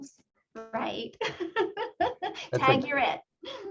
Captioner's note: laughs